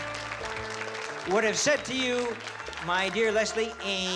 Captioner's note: bugs bunny voice